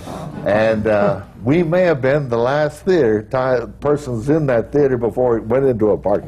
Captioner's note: audience groans